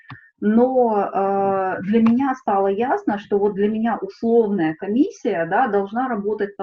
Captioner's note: Ukrainian